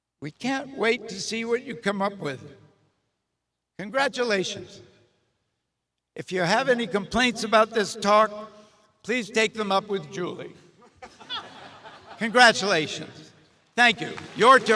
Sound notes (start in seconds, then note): 10.9 audience laughs; 13.9 audience cheers and applauds